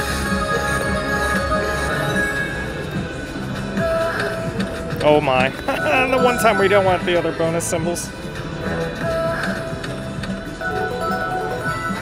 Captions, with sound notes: (electronic music) Oh my (laughing). The one time we don't want the other bonus symbols.